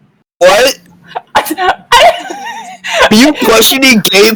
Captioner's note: wheezing